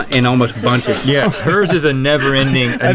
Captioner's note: crew laughing